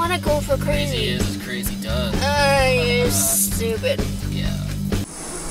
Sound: drunken slurring

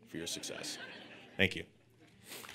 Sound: audience laughing

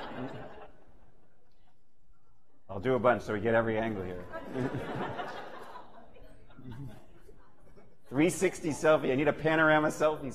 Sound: laughter

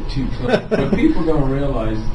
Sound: laughs

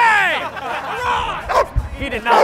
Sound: barking

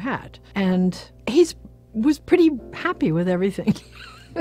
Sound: laughs

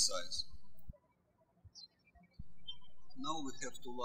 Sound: birds chirping

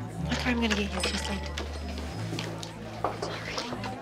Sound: quiet chattering

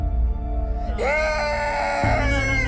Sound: crying

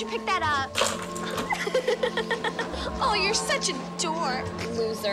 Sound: laughs

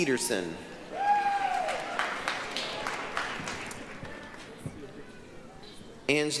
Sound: applause, cheering

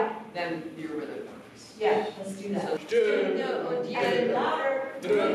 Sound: non-english speech

